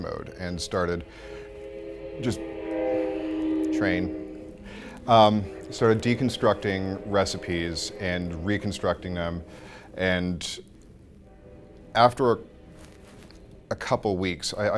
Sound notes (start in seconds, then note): 2.5 train blares horn in the distance